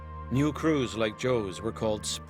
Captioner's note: voiceover